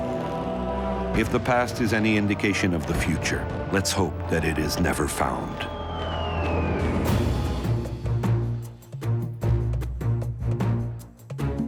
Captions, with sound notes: If the past is any indication of the future let's hope that it is never found. (bombs whistling) (dramatic orchestral music)